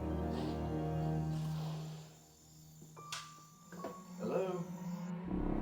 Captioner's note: crickets chirping